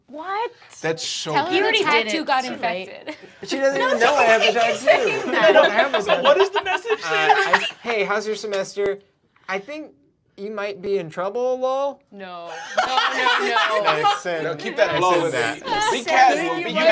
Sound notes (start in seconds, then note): 3.0 shouts of friendly disbelief and laughter; 6.1 laughing